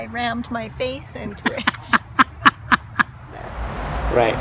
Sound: laughing

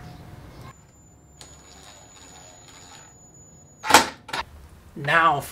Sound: screwdriver noise

